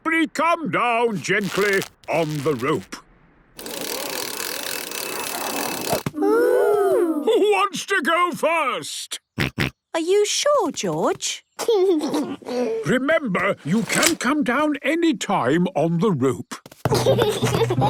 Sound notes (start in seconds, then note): 10.0 George snorts; 11.8 giggles